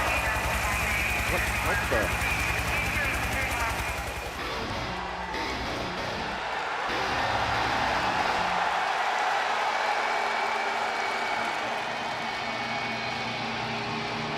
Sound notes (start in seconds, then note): 2.1 crowd cheering